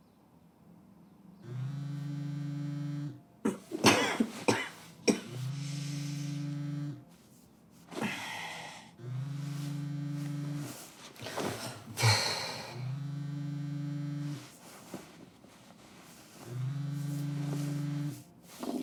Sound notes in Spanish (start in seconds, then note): 1.5 sonido vibración del móvil; 11.6 suspiro